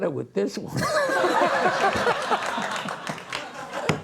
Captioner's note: laughing